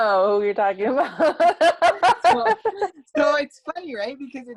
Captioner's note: laugh